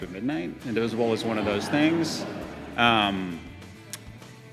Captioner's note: laughter